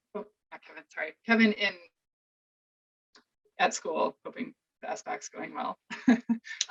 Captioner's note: chuckles